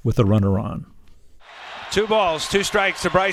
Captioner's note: soundbite of archived recording